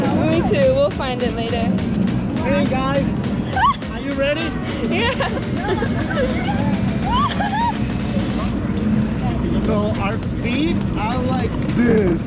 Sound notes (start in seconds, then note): 3.4 laughs nervously; 7.0 screams